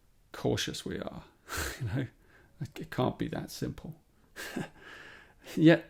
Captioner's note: chuckles